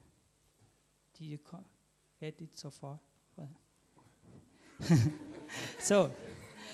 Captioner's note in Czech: smích